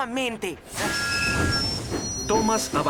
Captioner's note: toot!